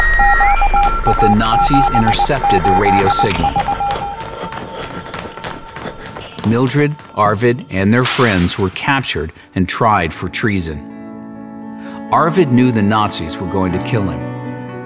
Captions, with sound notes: But the Nazis intercepted the radio signal. [Morse code on shortwave radio] [running and breathing fast] Mildred, Arvid, and their friends were captured and tried for treason. Arvid knew the Nazis were going to kill him.